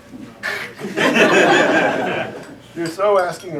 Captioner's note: laughter